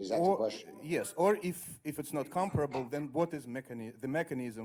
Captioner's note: voiceover